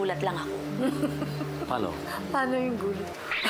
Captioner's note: chuckles